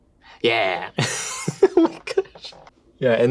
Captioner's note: laughs